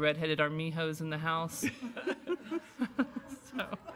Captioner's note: laughter